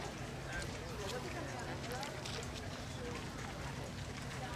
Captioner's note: crowd chattering continues